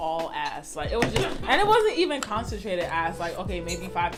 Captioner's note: laughter